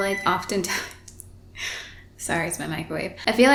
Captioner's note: interrupting microwave